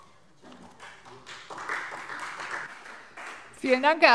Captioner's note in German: Beifall Freie Demokraten